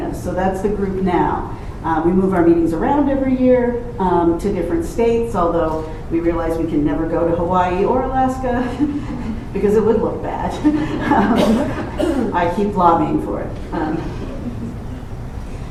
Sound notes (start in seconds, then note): 10.5 laughs; 10.6 laughter